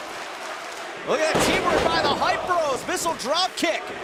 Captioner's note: crowd cheering